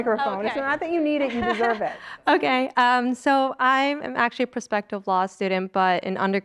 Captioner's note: laugh